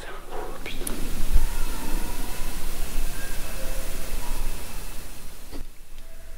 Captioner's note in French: Hurlement au loin !